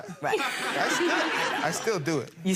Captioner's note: people laughing